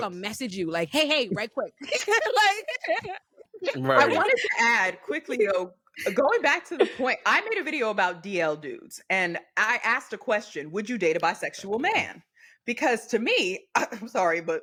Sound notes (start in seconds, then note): 1.7 laughing